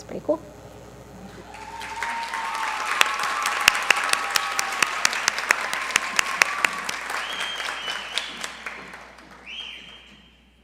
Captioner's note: applause